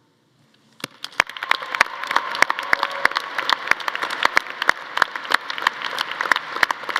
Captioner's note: audience applauding; audience cheering